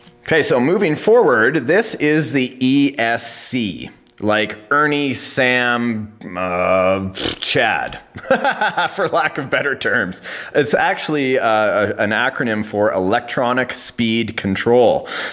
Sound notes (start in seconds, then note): 5.4 laughs